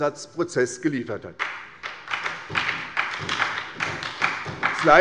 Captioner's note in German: Beifall bei der SPD